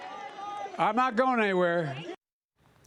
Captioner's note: cheers and applause